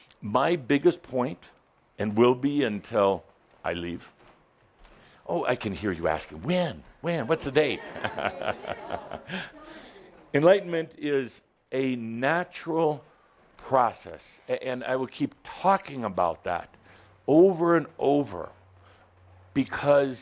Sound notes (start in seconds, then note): 7.7 Adamus chuckles